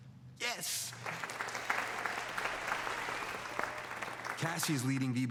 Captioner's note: all applauding